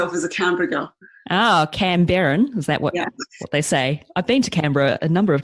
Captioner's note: mock australian accent